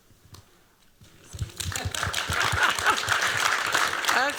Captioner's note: applause